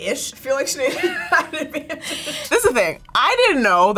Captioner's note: laughs